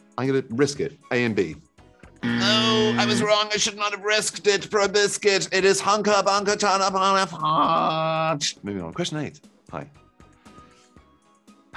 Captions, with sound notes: I'm gunna risk it. A and B. (buzzer sounds) Oh, I was wrong. I should not have risk it for a biscuit. It is hunka chunka (babbles) fudge... Moving on. Question eight. Hi.